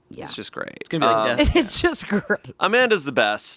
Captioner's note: laughing